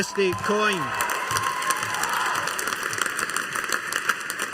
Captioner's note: audience applauding